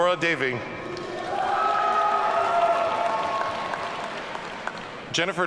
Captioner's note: audience cheering